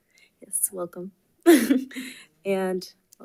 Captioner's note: chuckles